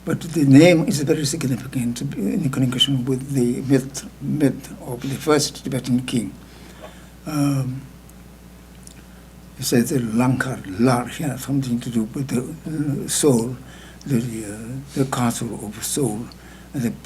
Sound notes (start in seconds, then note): 9.9 speaking tibetan